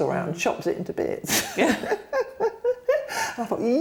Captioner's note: laughter